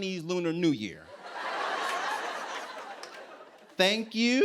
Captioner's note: laughter